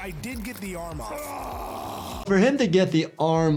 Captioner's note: groans